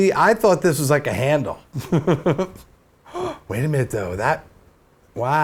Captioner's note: gasp